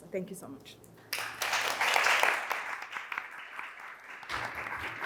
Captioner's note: audience clapping